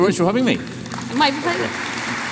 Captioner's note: applause